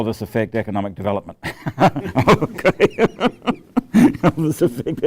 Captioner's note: laughs